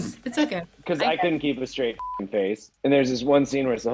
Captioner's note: beep